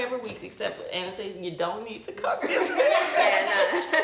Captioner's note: laughs